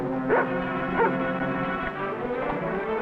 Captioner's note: intense dramatic music; dog barking; intense dramatic music